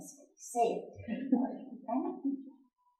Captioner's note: laughing